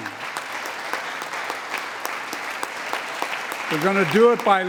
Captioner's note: applause